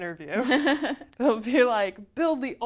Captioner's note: laugh